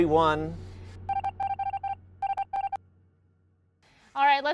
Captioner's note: machine beeping